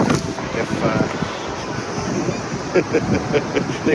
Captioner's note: laughing